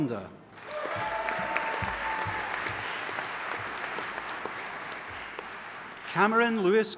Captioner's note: audience applauding and cheering